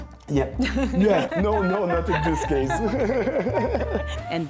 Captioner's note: laughs